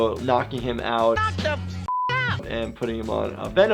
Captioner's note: beep